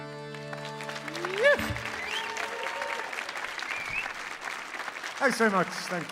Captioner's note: audience applauding